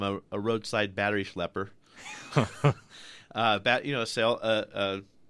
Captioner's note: both laugh